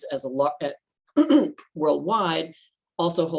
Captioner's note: clears throat